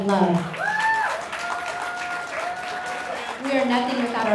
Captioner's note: cheers and applause